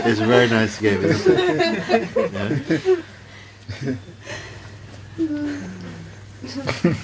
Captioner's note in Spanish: risas